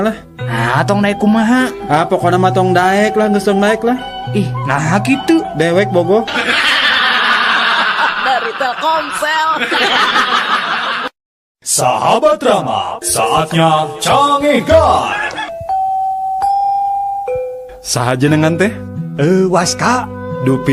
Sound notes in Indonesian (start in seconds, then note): 10.9 tertawa